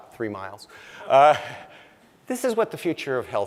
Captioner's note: laughing